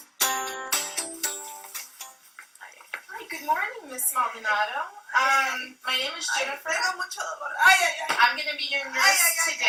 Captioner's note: patient is crying